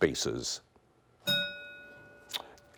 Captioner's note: bell rings